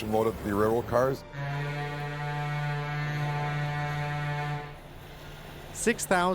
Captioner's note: boat horn blows